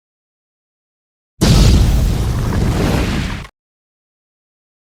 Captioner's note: booooooooooooooooooooooooommmmmmmmmmmmmmmmmmmmm